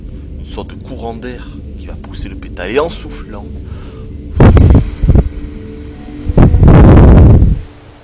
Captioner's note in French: souffle dans le micro